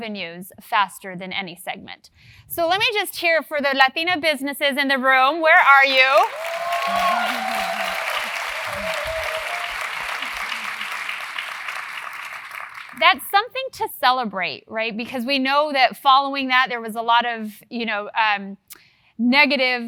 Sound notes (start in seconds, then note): 5.7 applause